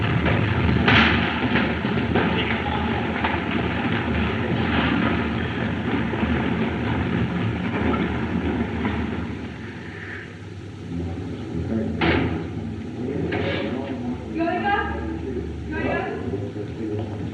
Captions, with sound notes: [Chattering] Going up. Going up?